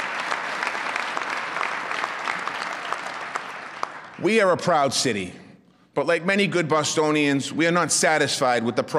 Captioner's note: applause